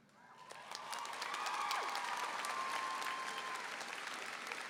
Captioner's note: applause and cheering